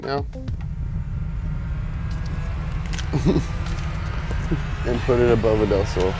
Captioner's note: ground shaking sound